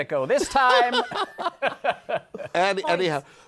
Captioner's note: laughter